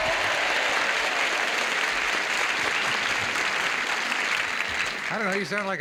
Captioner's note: cheers and applause